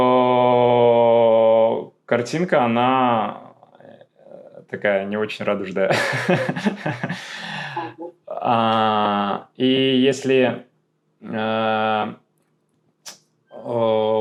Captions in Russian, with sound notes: картинка она такая не очень радужная. [смех] [вздыхает][тяжело вздыхает] А и если, э-э, э,